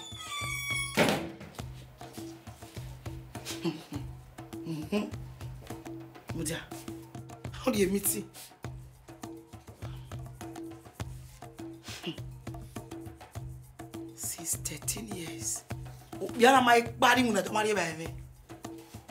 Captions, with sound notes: (door closed) Hum hu.... Wait a minute! Going to a meeting? He has never gone to work without consuming my meal in the past 13 years.